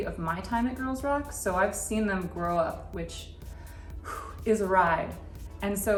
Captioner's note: phew